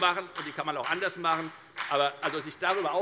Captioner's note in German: Beifall bei der FDP